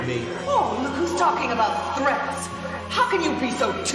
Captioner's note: Wife, voiceover